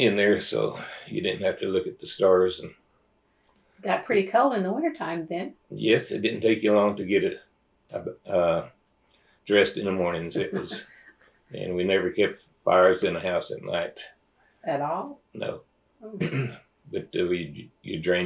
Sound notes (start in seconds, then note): 10.3 laughter